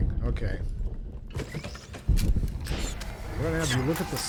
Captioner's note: gunshots